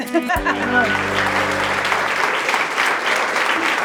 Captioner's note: laughter; applause